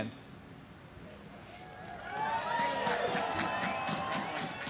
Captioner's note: audience cheers